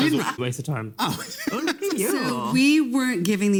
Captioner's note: laughs